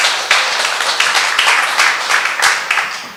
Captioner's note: applause